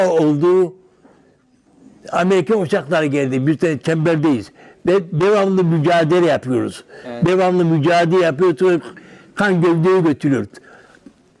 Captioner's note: foreign language